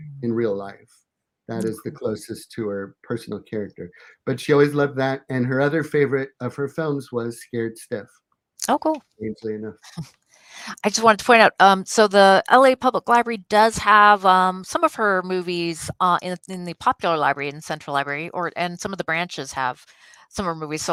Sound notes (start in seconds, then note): 9.2 murmuring